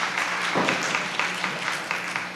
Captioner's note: applause